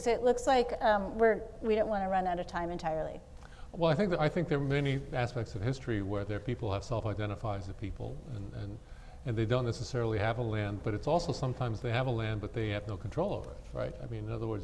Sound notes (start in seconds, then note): none